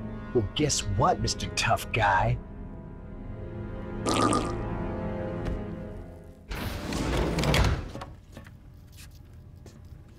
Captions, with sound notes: Well guess what, Mr. Tough Guy? (Big flatulence)